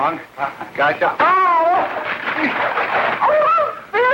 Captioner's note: gasping; yelping